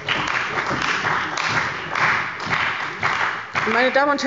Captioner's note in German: Beifall bei der CDU und dem BÜNDNIS 90/DIE GRÜNEN